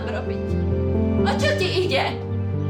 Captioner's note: mom speaks Czech